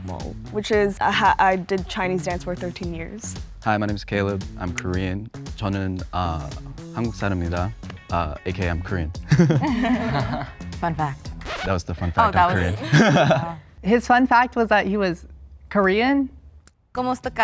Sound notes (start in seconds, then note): 6.2 speaking Korean; 9.2 contestants laugh; 9.3 laughing; 11.4 record scratches; 12.5 all laughing; 12.5 laughs